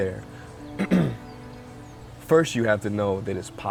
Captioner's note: clears throat